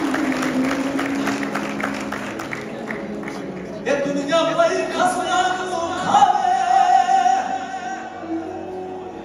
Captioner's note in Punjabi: ਤਾੜੀਆਂ